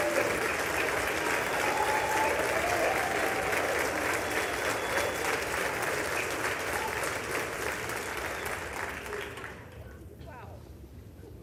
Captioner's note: applause